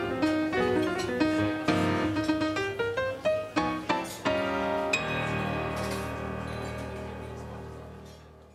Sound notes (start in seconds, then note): 0.5 dishes clattering